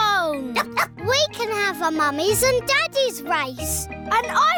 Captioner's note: barks